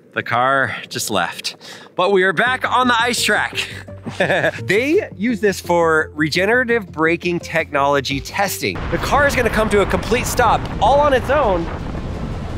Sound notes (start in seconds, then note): 2.4 upbeat music; 3.6 person laughing